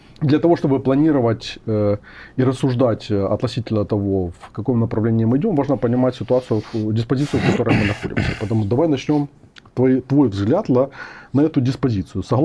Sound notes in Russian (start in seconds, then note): 7.2 откашливается